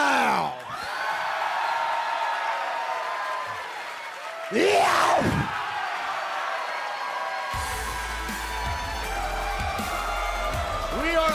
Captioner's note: cheers and applause